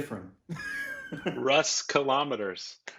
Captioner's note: laughing